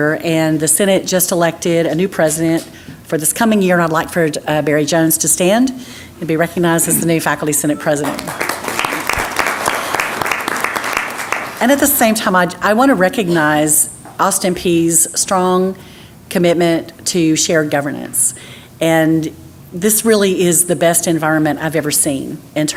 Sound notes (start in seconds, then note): 8.0 applause